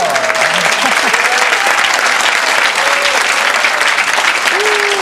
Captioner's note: audience clapping